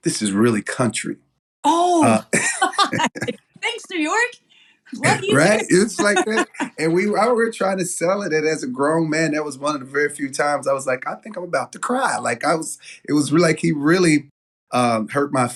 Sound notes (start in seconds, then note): 2.0 laugh